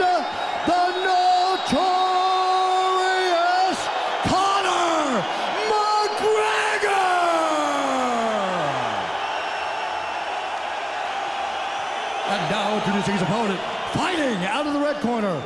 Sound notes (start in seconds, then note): 7.4 cheering